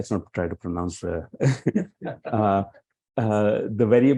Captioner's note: laughs